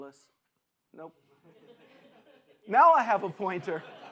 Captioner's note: audience laughs